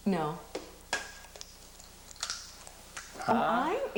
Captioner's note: cracking